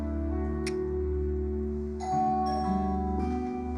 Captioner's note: doorbell rings